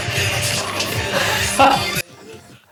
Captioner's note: laughs